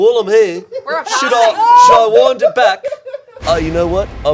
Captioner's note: all laughing